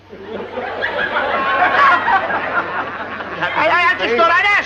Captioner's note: laughter